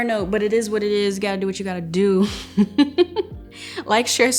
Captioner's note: laughs